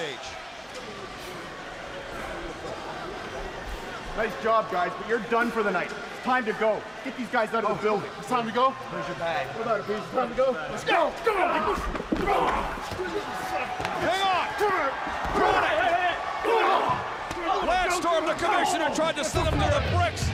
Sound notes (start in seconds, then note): 0.3 crowd chatter; 12.3 crowd chatter; 16.7 crowd cheering; 17.4 crowd chatter